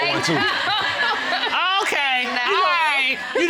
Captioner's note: audience laughs